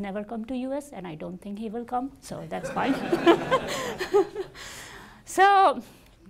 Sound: laughs

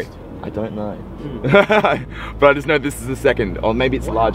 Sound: laughs

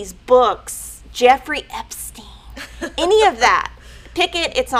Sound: laughing

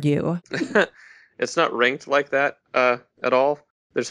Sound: laughs

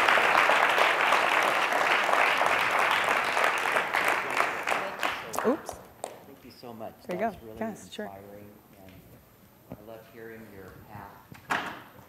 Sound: applause

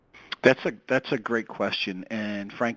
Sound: voiceover

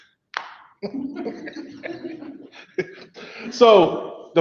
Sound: laugh softly

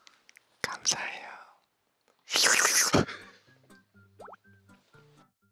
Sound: kisses

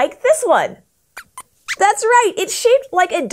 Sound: squeaks squeaks

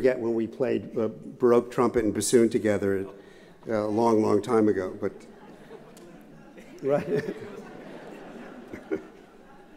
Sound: laughter

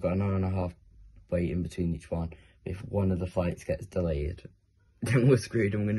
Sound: laugh

